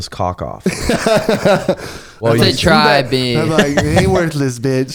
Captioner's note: laughing